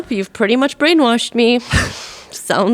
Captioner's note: both laughing